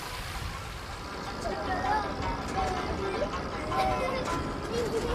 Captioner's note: indistinct chatter